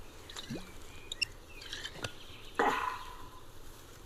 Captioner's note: sighs